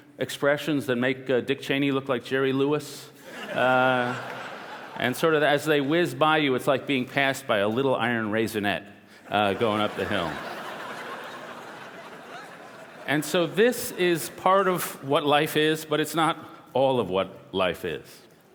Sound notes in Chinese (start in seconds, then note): 3.2 笑聲; 9.4 笑聲